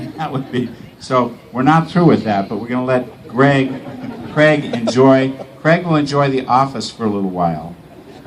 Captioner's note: laughs